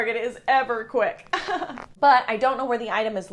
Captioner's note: chuckles